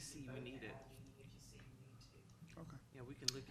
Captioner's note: speaking quietly